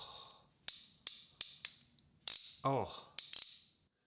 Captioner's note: tool clicking